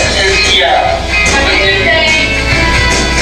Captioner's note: non-english speech